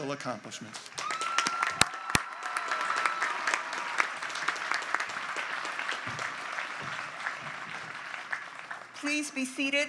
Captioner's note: applause